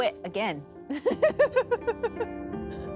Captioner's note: laughing